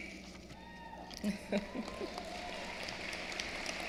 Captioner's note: applause